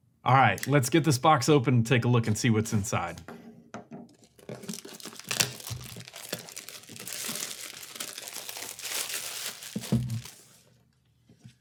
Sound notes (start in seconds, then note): 4.1 crinkle of plastic wrap